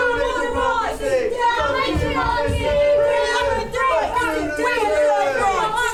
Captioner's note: shouts of protest